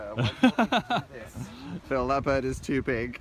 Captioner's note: laughing